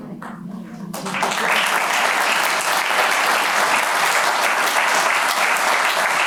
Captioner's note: applause